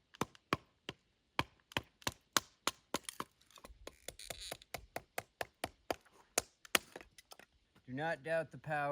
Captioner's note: wood breaky noises